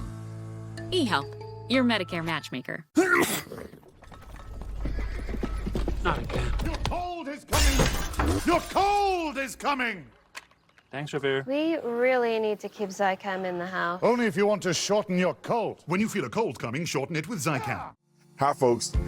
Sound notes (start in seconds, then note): 3.0 sneeze; 5.6 hooves approaching